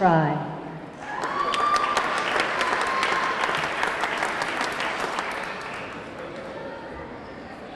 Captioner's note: audience cheering; audience clapping